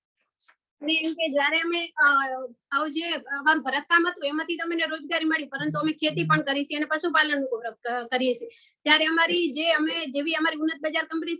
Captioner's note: non-english speech